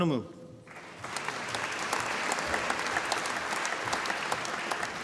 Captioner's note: applause